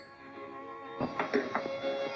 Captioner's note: phone rings; plate sets down